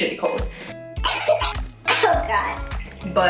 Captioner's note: coughs